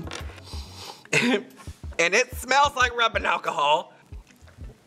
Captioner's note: sniffs